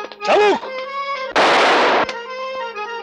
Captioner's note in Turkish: Silah sesi